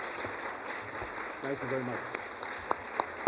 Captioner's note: applause